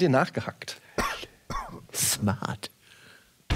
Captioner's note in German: Hüsteln